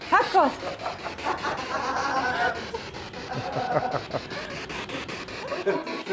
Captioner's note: noise of the spiritbox in the background